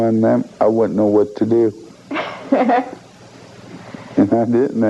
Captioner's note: chuckling